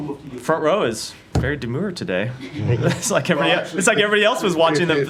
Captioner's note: laughter